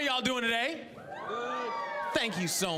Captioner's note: audience cheering